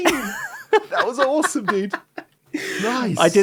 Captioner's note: laughs